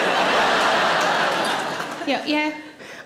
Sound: audience laughs

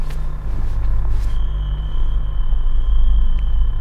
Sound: crickets chirping

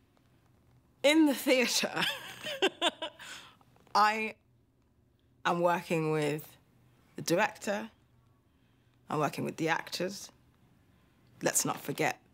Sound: laughs

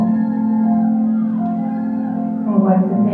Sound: crowd cheering

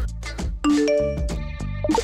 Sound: beeping

